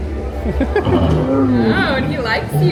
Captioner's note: giggling